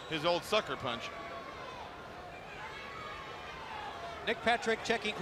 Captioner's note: crowd chatter